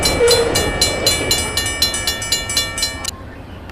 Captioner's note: crossing bells ringing